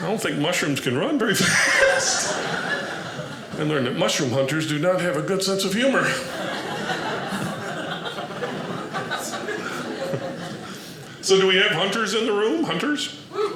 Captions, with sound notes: I don't think mushrooms can run very fast. I learned that mushroom hunters do not have a good sense of humor. (audience laughing) So do we have hunters in the room? Hunters?